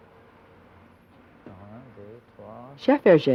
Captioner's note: counts in french; voiceover